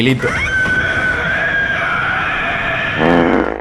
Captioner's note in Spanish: grito que vive gratis en mis pesadillas